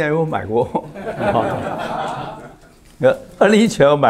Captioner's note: laughs